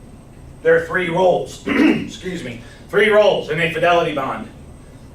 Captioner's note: clears throat